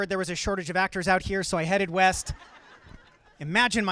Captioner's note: audience laughing